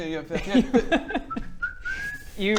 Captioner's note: whistles